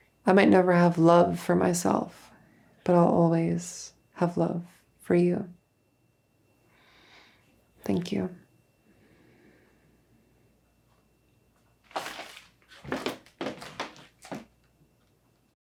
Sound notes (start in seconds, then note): none